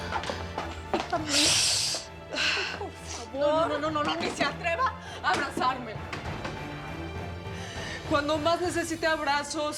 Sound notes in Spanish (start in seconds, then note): 2.3 Sollozos